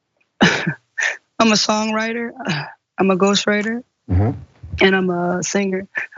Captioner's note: laugh